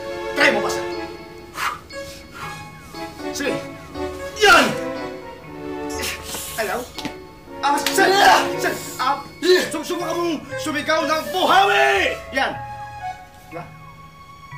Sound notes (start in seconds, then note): 1.4 exhaling; 8.5 screams, grunts